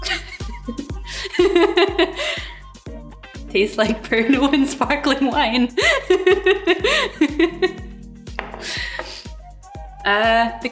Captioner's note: laughs